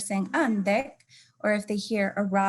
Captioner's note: speaking in native language